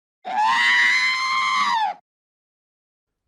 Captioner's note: whooaaaaaaa